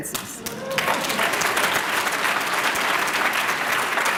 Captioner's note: applause